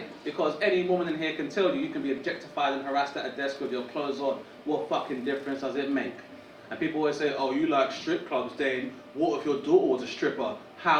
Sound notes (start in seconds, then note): none